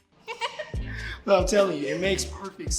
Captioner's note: Chelsea laughs